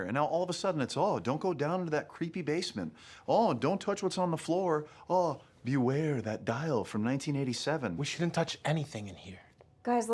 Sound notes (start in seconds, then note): none